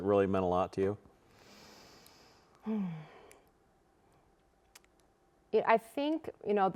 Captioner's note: breathing deeply